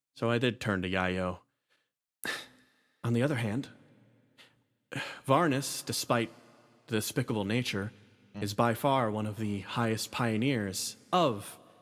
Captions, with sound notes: So I did turn to Yaiyo [M Sigh] On the other hand Varnus, despite The despicable nature is by far one of the highest pioneers of..